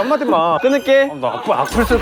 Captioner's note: beep